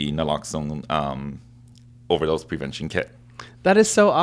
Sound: none

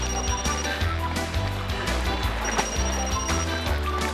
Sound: phone ringing

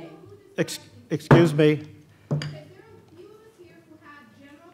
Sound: gavel

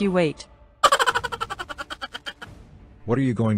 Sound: laughs

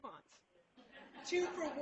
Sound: laughter

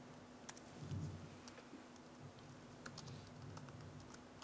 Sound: keyboard keys click

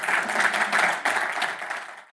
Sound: audience applauding

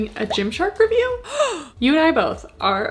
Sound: woman gasping

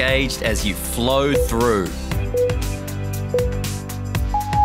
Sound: timer beeping

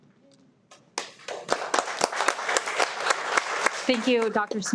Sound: everyone applauds

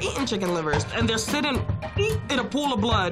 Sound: gags

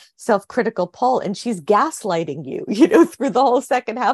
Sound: chuckles

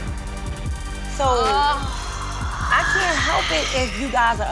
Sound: hisses

